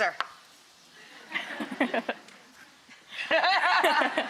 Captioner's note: laughing